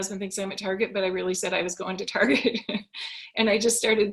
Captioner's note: laughs